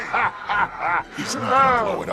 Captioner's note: laugh